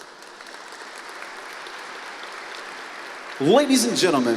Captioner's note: applause